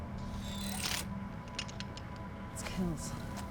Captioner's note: energy buzzing